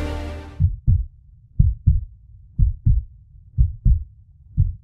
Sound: heart pounding

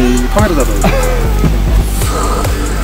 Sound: adamant

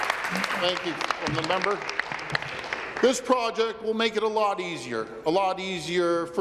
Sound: applause

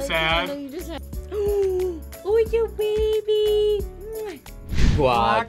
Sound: gasps

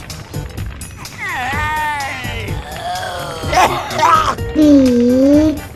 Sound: coughing

